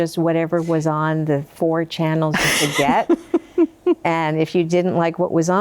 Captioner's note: laughing